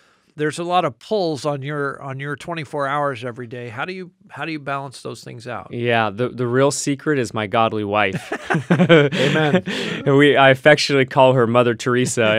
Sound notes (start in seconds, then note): 8.1 laughing